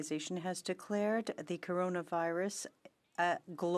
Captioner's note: speaking French